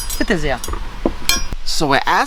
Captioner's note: replies in German